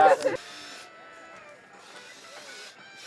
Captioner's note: grinder noises